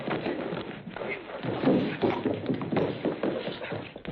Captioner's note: grunting